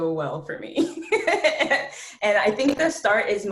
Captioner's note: laughs